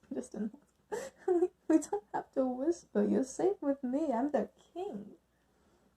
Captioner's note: giggling